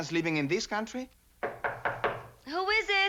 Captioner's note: knocking on door